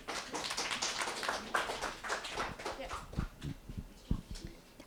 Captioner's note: applause